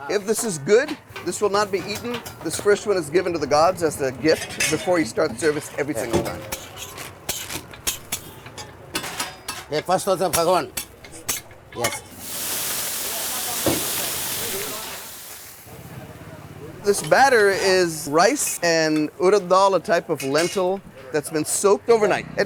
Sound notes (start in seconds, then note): 6.3 Dosa scarping; 12.1 water sizzling